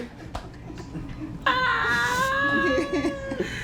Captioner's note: laughing